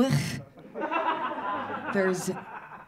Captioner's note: audience laughing